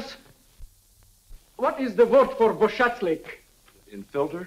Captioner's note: speaking in foreign language